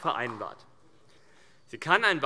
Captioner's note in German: Beifall